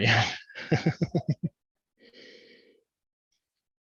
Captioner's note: laughs